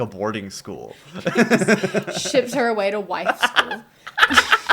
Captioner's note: laughter